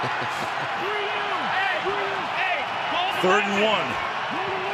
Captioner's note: crowd cheering